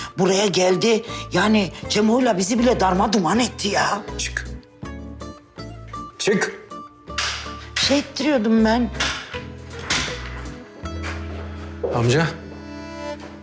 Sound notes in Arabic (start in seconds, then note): 9.7 يفتح الباب